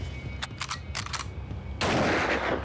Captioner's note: gun cocks; gun fires